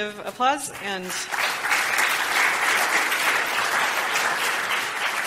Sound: applause

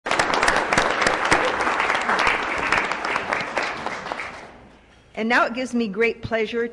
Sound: applause

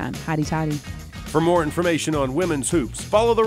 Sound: voiceover

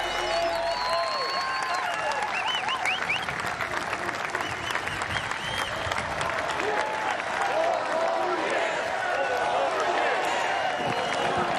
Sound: cheers and applause

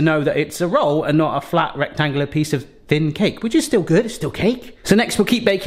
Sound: none

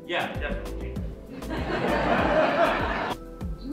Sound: audience laughter

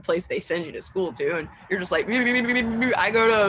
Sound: burbling sounds

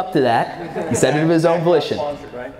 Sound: audience laughs

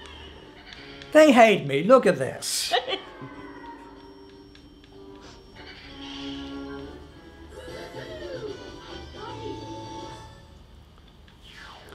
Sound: in-game sounds

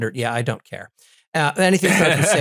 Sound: laugh

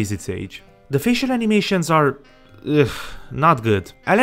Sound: ugh

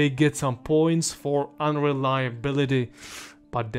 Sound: sniff

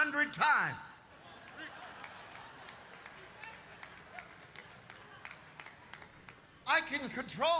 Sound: congregation laughing and applauding

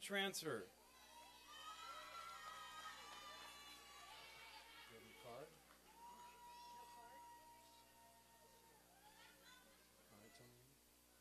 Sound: applause and cheering

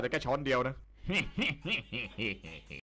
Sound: laugh evil

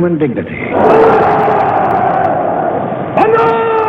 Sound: crowd chanting

